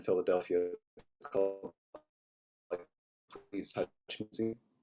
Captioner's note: audio cuts out